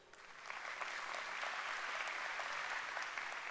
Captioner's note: applause